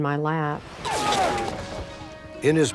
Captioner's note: screaming